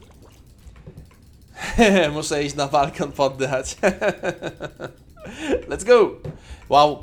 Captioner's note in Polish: śmiech